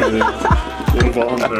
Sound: laughter

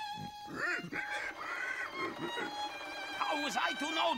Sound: pig grunting

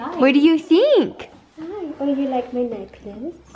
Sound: voiceover

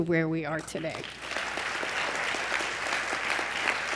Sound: applause

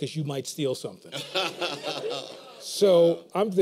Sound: laughter

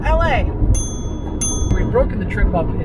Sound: ding

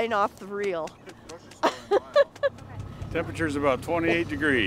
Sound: chuckling

